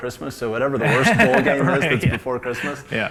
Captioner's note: laughs